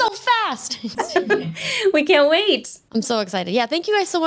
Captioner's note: laughing